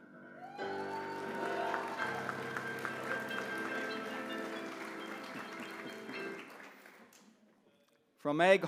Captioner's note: applause